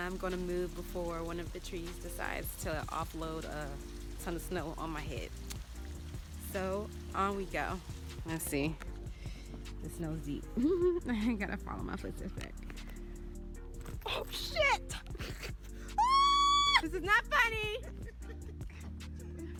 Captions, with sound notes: going to move before one of the trees decides to offload a ton of snow on my head so on we go. Let's see. The snow's deep. I gotta follow my footsteps back. Oh shit! [scream] This is not funny!